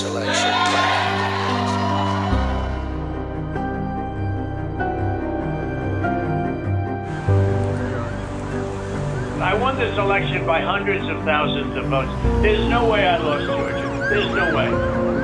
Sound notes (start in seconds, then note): 0.0 cheers and applause; 7.8 siren blaring